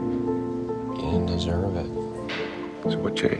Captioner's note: voiceover